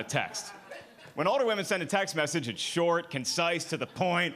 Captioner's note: audience laughing